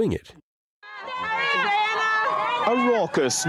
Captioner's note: crowd cheers